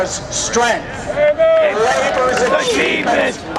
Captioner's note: chanting